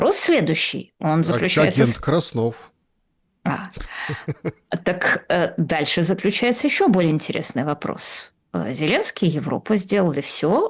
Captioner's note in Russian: смех